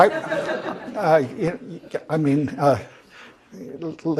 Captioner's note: laugh